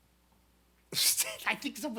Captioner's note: laughs